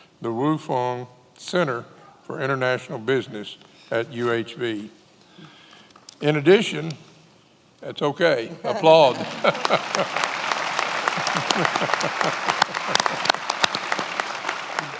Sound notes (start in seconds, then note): 8.6 laughs; 10.4 many applauding